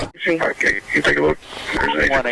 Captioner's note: radio chatter